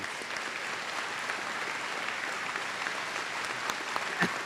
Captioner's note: applause